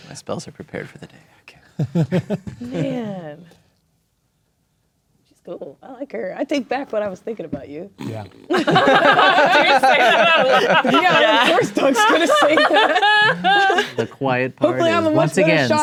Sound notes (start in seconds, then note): 1.8 laughing; 8.5 players laughing; 13.3 players laughing